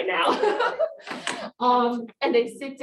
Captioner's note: laughs